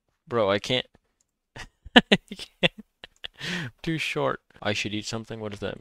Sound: laughs

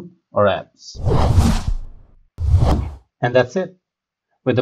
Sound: whooshing

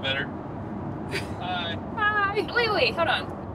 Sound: laughing

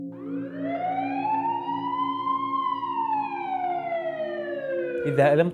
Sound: ambulance sound horn

